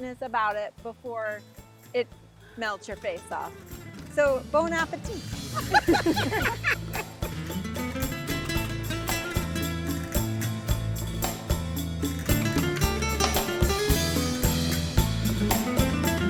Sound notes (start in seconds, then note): 5.4 laughs; 7.5 mellow acoustic music